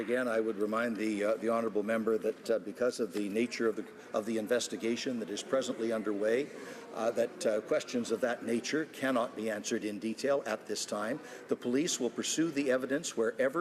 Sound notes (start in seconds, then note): none